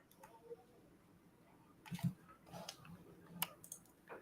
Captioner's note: clicking